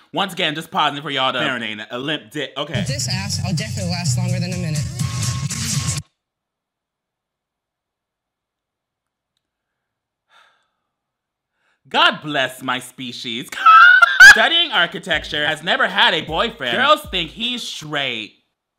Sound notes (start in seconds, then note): 10.3 sighs; 13.6 laughs